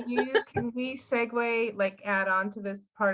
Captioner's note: laughing